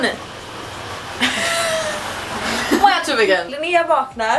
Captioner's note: laughs